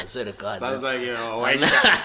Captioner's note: laughs